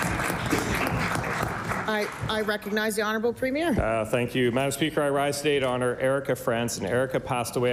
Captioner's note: applause